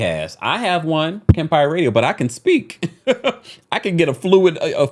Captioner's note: laughing